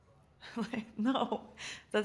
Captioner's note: chuckles